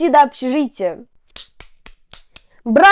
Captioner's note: claps